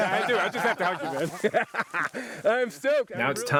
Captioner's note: laughs